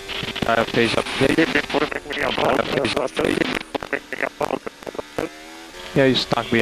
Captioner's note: feedback